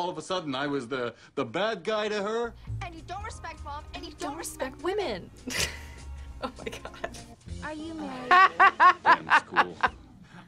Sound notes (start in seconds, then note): 6.3 laughs; 8.9 laughs